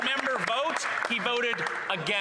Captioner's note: some Applause